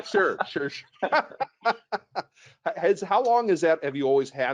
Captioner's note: laughs